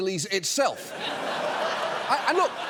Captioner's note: audience laughing